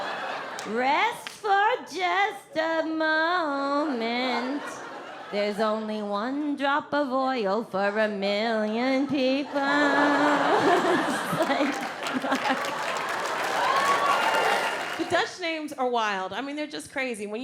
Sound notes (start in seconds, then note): 0.0 audience laughs; 4.0 audience laughs; 9.1 audience laughs and cheering